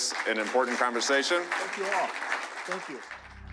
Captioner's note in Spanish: aplausos